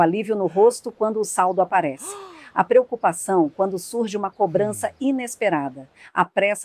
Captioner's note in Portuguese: suspirando